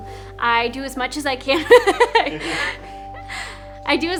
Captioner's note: laughs